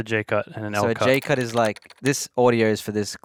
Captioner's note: keyboard clacking